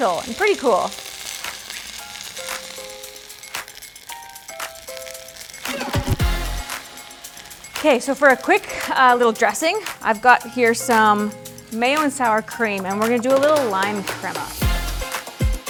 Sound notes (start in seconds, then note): 8.0 chicken sizzles in pan